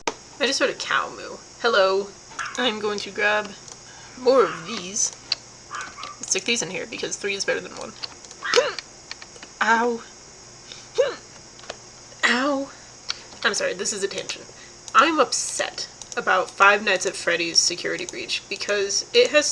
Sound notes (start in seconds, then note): 8.4 violent hiccup; 11.0 another hiccup